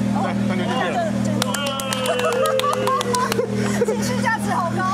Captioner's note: round of applause